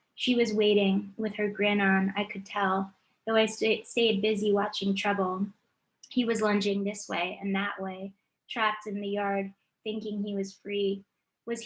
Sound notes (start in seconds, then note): none